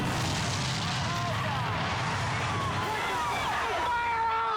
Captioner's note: explosion booming; people exclaiming